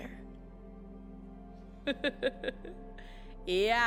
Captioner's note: laughs